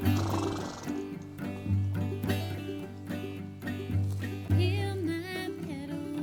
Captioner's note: horse chuffs